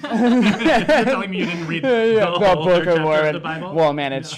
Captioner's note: laughs